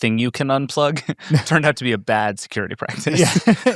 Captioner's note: laughs